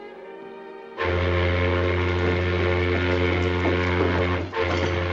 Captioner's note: boat horn blowing